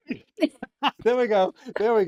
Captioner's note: laughing